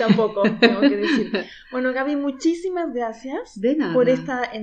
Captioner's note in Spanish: Risas